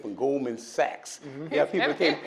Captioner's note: panelist laughs